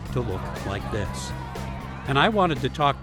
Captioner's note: crowd cheers